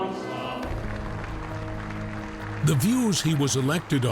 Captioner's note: crowd applauding